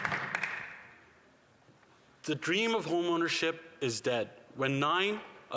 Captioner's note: some applause